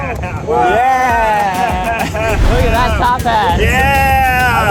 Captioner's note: boys chuckle; boys cheer